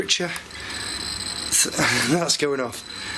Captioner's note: machine beeping